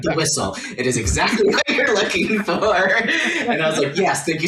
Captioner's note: laughter